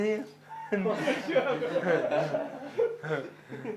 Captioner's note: laughter